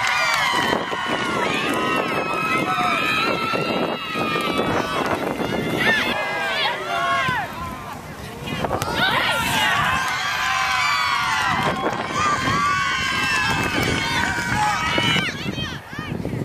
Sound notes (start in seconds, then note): 10.9 crowd cheers